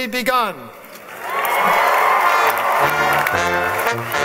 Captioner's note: applause; marching band music